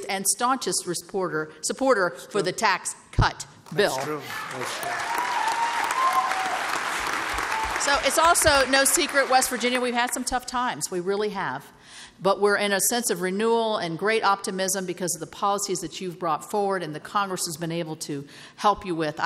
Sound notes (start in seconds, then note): 3.8 applause